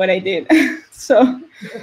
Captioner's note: laughs